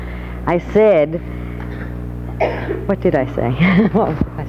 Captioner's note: laughs